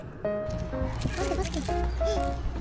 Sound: crunchy

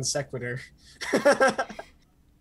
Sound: laughs

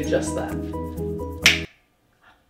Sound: snap

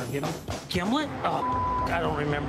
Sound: beep

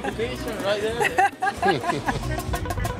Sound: laughs

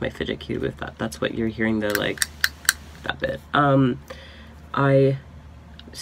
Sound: clicking noise

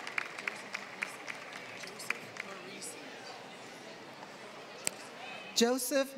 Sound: applause

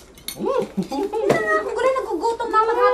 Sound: Taldo chuckling

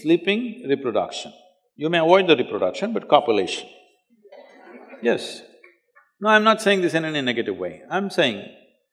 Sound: few Laugh

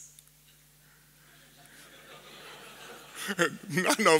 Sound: laughter

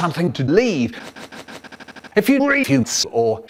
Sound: sniffing accelerates

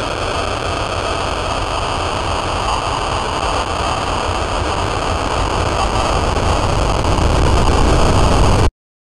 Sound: static interference; blaring static

